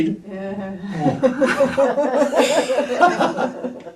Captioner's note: off screen laughter